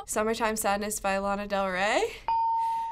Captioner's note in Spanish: ding